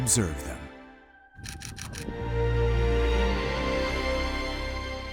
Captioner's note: camera shutter clicking